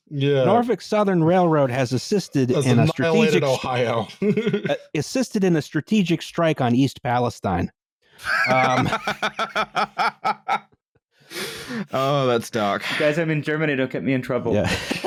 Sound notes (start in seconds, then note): 2.5 laughs; 8.2 laughs